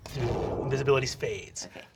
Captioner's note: whooshing